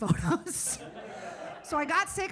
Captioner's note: audience laughing